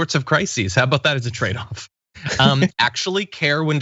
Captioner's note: laugh